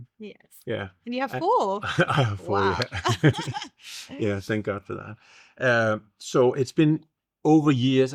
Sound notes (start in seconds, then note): 3.6 both laughing